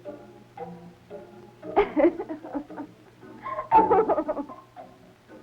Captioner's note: giggling